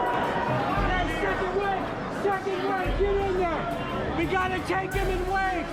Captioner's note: crowd cheering, yelling